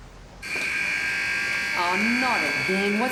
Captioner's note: gate buzzer sounds